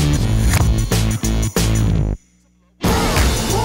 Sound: cheering

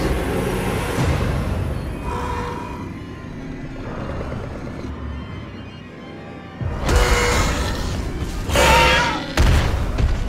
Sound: Scorpius Rex screeches

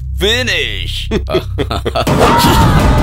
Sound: laughs

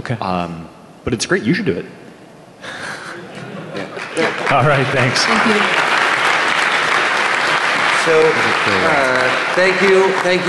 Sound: laughing; applause

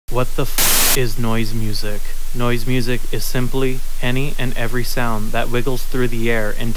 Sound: white noise

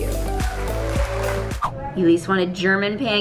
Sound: applause

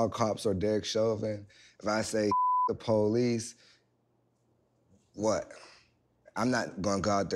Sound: beep

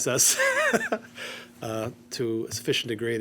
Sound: chuckles

